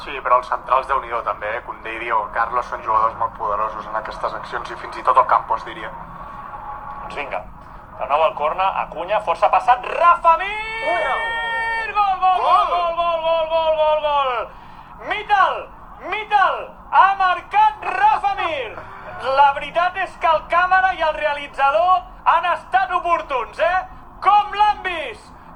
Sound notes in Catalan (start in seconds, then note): 9.7 celebran xd; 18.7 Se ríen todos